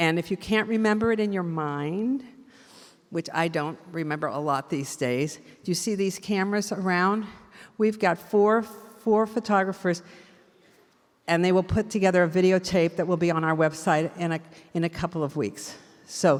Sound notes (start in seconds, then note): none